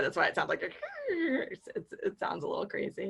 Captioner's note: screeching